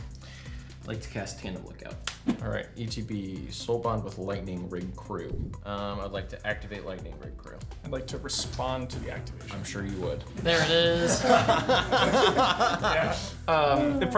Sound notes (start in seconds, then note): 10.4 players laughing